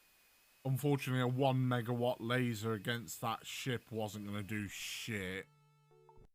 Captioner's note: pulse